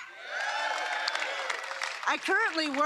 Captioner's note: applause